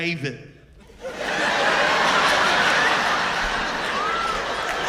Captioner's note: laughter